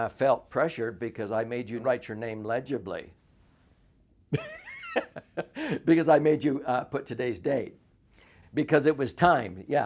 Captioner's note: laughs